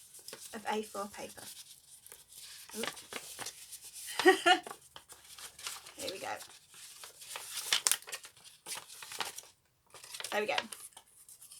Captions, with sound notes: of A4 paper (laughs) here we go!